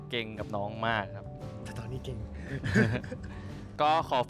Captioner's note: laugh